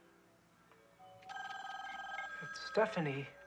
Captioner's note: telephones ringing